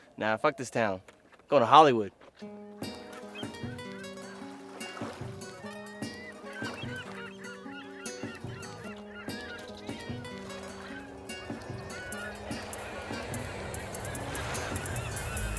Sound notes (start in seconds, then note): 2.6 bright guitar music; 2.6 waves lapping; 5.7 gulls shrieking